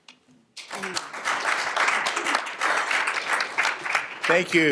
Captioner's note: applause